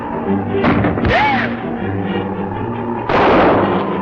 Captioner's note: gunshots